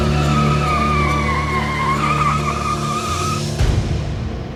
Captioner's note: tires screeching